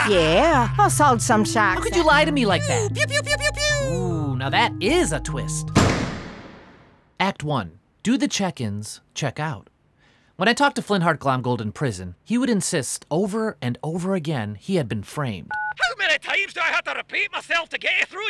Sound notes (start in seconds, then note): 5.7 door slams; 15.5 phone beeps